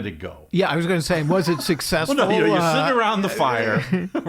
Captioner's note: laughing